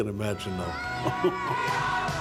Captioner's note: laughter